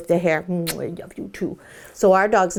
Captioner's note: lips smack